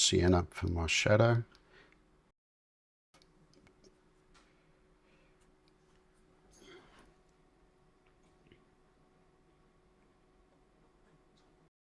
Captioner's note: silence